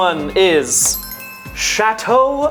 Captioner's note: bells chime